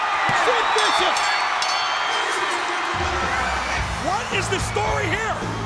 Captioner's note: bell ringing